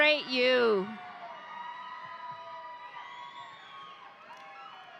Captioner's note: audience cheering